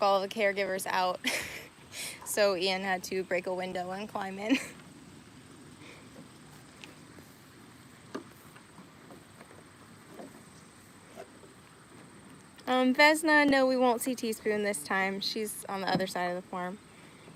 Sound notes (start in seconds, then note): 5.8 laughing